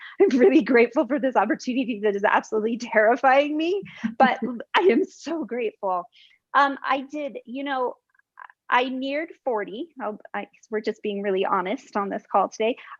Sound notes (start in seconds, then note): 3.9 laughter